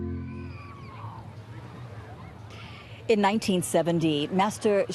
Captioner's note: background chatter